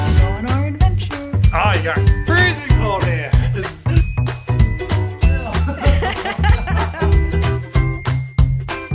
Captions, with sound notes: We're on our adventure. - Ah, you've got freezing cold hands. (lively music) (couple laughing)